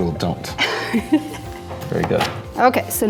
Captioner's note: laughs